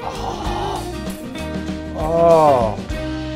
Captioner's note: gasps